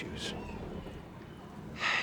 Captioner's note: sighs